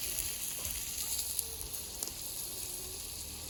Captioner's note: fizzles